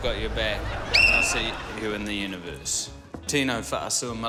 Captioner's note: whistle blows